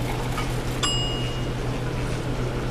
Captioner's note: ding